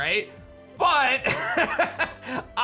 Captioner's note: laughs